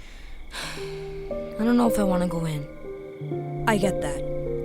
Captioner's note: sighs deeply